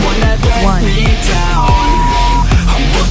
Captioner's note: beep; upbeat music